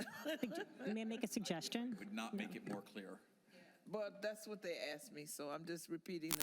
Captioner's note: laughter